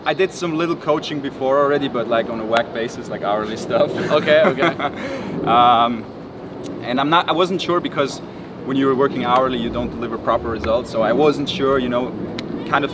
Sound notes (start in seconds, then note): 3.4 laughs